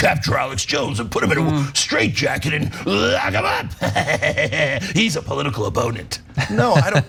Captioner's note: laugh